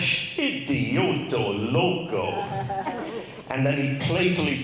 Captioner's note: speaks in Spanish